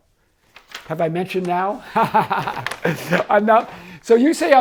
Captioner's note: laughing